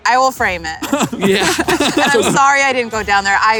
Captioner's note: laughs